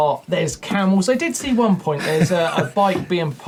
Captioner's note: laughing